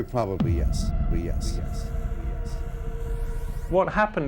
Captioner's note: guest's voice echoes